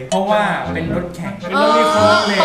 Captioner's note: racing Car